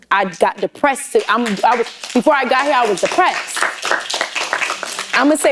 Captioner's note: applause